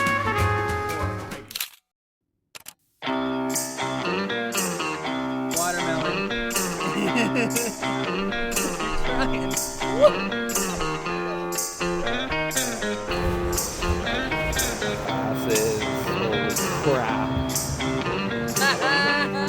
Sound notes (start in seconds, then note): 2.0 camera clicking; 8.0 laughs; 10.1 upbeat music; 19.3 laughing